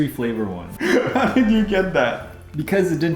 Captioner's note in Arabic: يضحك